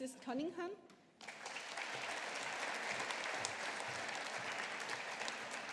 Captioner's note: audience applauding